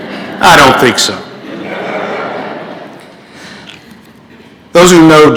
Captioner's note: laughter